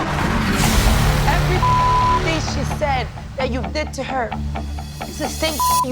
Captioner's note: beep; beep